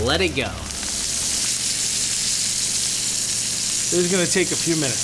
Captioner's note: pan sizzling